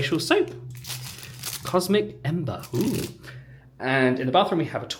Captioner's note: plastic rustling